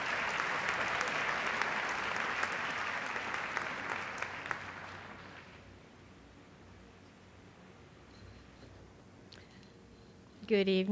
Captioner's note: applause